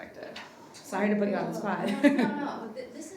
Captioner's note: laughs